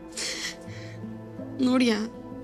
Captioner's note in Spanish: Sollozos